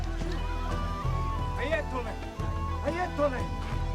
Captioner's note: speaking in arabic